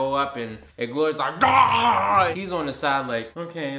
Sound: growls

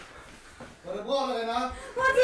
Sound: A male shouting something in norwegian

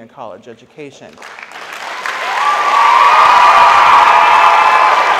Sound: audience applauds

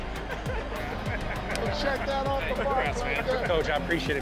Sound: laughter

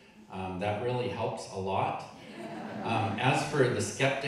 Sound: audience laughing

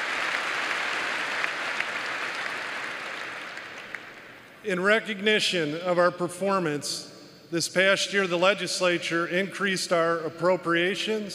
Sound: applause

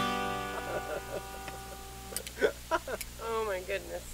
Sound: man laughing

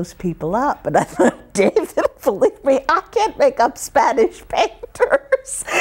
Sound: laughs

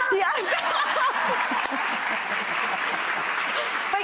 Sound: everyone laughs

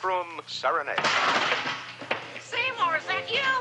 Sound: clattering; big band music

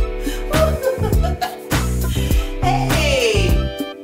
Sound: upbeat music; mom laughs

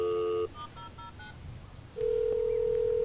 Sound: dial tone; phone dialing; phone ringing

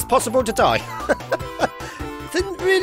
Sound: chuckles

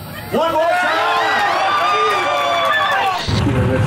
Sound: crowd cheering

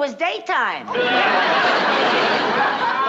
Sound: laughter

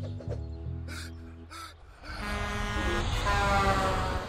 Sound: gasping; truck horn blaring

